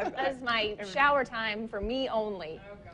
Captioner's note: laughs